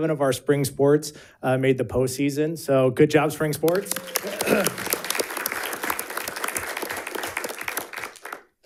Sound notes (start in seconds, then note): 3.6 audience applauding